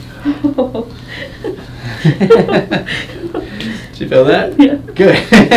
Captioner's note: chuckling